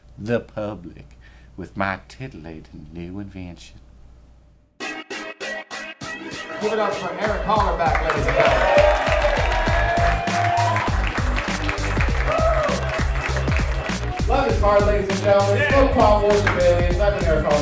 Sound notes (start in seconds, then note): 10.6 audience applauding; 13.8 upbeat hip hop beat